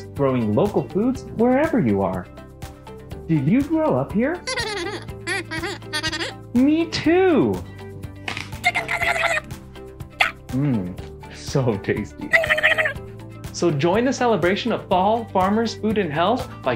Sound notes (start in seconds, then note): 7.5 crunch; 8.6 high-pitch angry noises; 12.3 more angry noises